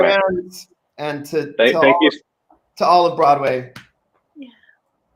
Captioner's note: hand pounds chest